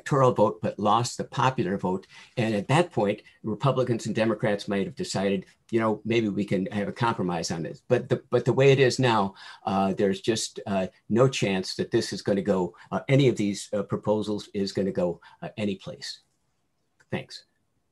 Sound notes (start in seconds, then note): none